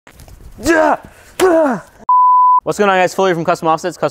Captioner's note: screaming